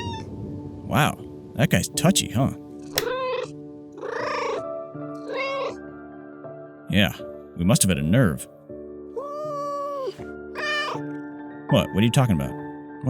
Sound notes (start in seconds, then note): 5.1 meow; 10.5 yowl, meow